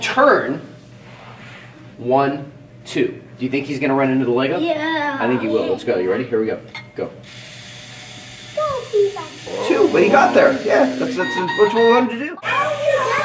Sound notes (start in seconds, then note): 7.3 motor whirring; 9.4 beeping